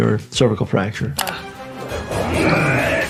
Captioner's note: mouse clicking; energetic orchestral music